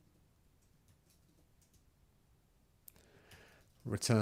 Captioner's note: silence